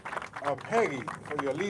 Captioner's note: applause